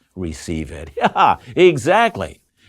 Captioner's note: chuckles